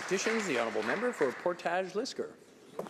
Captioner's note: some Applause